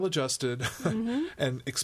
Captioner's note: laughs